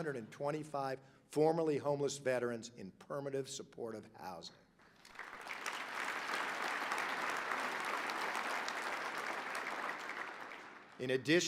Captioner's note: applause